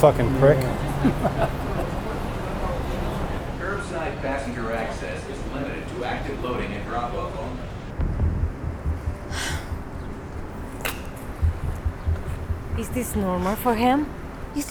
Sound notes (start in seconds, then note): 2.7 chuckles; 8.7 soft foreboding music; 9.3 Emilie sighing